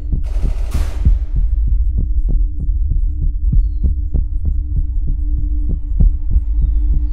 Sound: heartbeat pounding; soft music

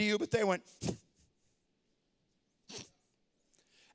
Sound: puff

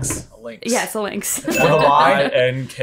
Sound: bell dings

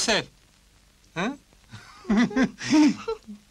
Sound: laughter

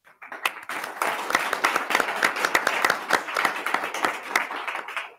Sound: attendees clapping

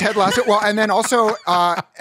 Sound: laughter

